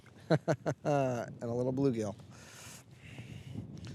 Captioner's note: laughing